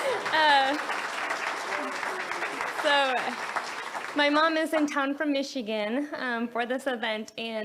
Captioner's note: laughs; audience cheers